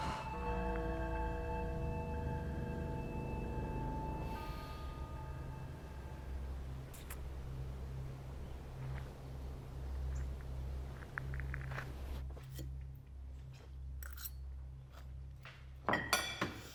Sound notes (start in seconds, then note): 0.0 sighs; 0.0 tense electronic music continues; 4.2 Noah sighing; 7.0 lips smacking; 10.0 footsteps pattering; 12.5 Jim and Rebecca chewing; 14.0 utensils scraping